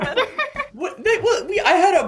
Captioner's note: Chris stammers